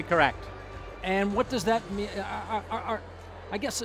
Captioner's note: stuttering